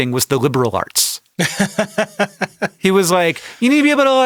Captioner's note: laughs